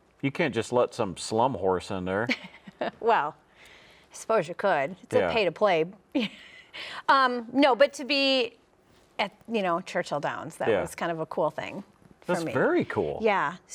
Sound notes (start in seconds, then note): 6.7 chuckles